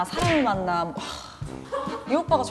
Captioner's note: sighs